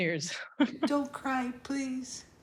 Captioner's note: chuckles